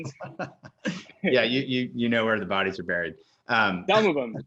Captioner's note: laughs